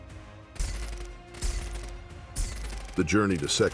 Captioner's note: gun shots